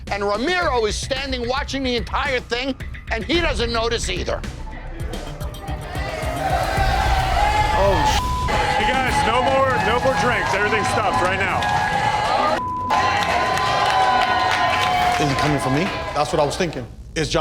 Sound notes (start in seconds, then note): 4.8 crowd chattering; 8.4 beeping; 11.8 crowd cheering